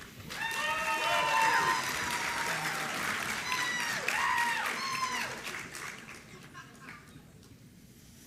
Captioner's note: applause